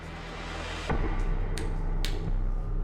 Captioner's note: snaps fingers